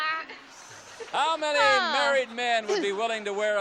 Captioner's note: laughs